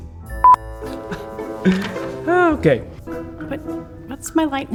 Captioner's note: laughs